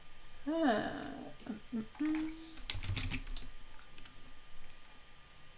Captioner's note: humming